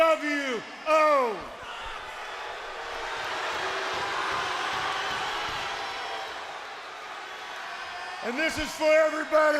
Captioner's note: crowd cheering